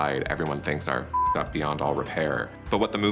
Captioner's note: beep